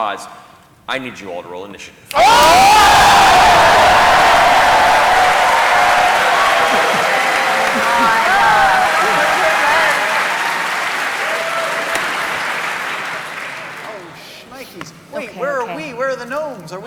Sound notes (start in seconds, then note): 2.1 cheering